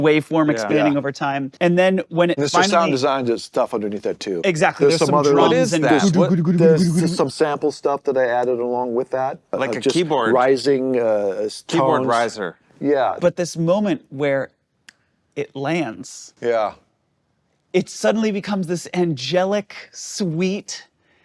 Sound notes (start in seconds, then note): 5.7 makes drumming sounds